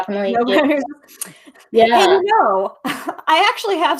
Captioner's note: laughing